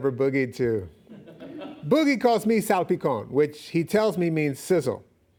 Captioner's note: audience laughing